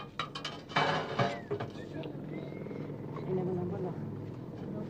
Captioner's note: tray rattling